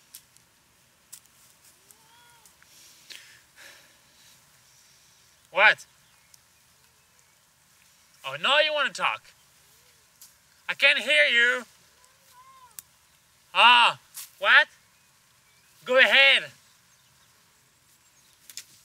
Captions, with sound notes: (Julia babbles) What? Oh, now you wanna talk. I can't hear you. (Julia babbles) Ah, what? Go ahead.